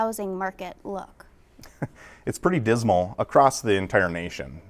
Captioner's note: chuckles